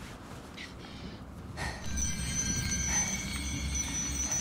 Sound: mystical tinkling

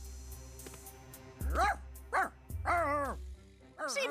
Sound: barking

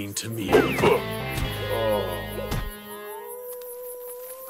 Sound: dark grunts; wolf howls

